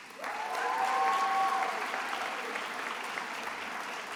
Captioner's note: attendees applauding